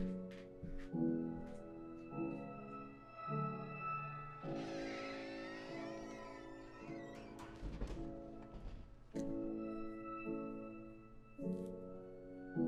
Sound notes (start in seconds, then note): 4.4 door opening and closing